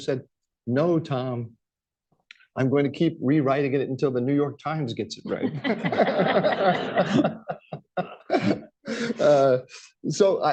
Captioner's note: laughter